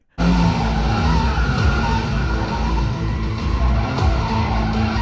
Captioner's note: car engine raging